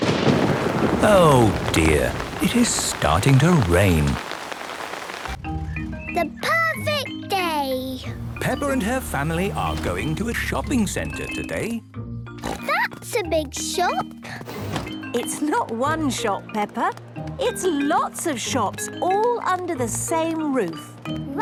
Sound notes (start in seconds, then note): 0.0 thunder rumbling; 4.6 downpouring